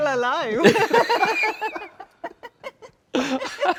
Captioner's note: both laughing